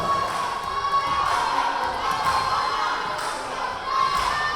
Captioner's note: yelling